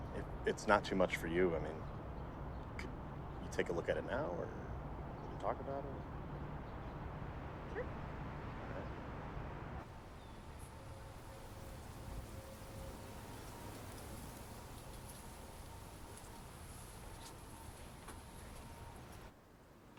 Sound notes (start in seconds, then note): 10.5 leaves rustle